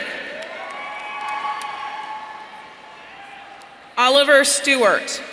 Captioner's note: audience cheering